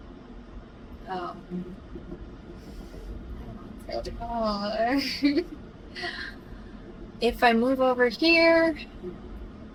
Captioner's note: laughs